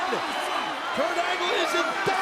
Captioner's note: audience cheering and clapping